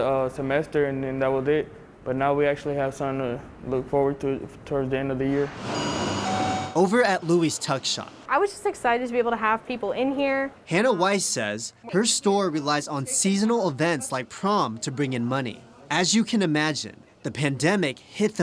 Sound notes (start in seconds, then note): 5.6 door bell